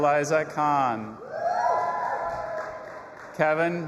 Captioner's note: audience applauding and cheering